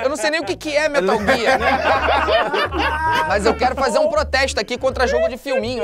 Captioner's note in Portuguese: risadas